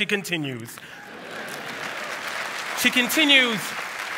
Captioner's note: applause; cheer